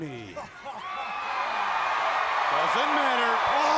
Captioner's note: crowd cheering